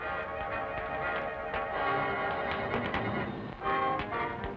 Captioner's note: fire crackling